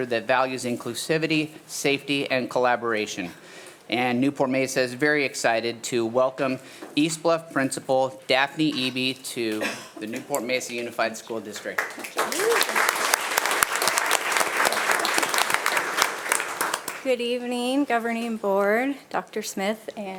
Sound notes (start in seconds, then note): 11.6 attendees applauding